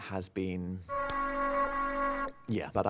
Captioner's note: distorted alarm blaring